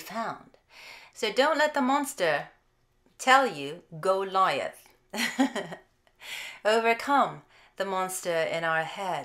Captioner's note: chuckles